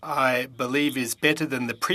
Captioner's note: speaking French